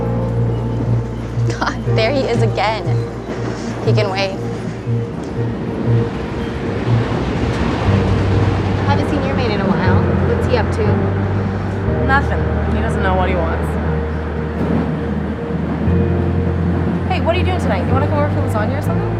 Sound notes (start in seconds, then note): 6.2 train whooshing